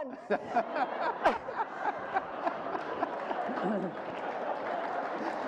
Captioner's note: group laughter and applause